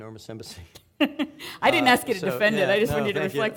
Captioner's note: laughing